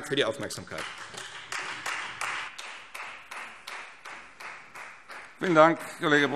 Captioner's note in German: Beifall Freie Demokraten